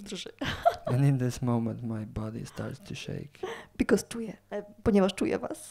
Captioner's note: laughs